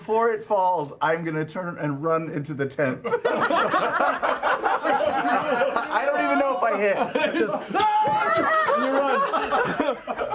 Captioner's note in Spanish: grito